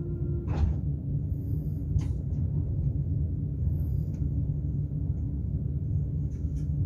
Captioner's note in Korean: 출입문 열림